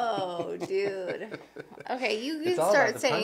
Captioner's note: laughs